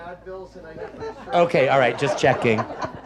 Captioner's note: audience laughs; speaks faintly